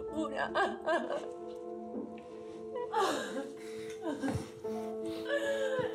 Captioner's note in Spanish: sollozos